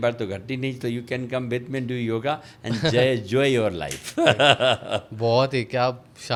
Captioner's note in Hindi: हंसी